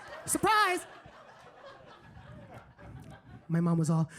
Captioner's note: audience laughing